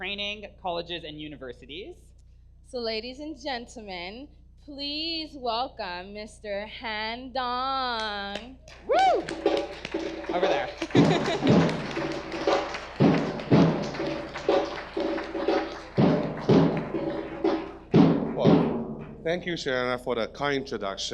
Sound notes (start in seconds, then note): 8.8 audience applause; 8.8 drumming begins; 8.8 whooping; 10.2 laughs; 12.9 drumming and applause continue